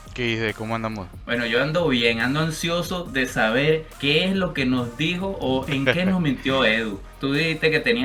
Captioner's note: laughs